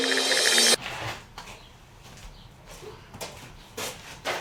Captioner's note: birds chirping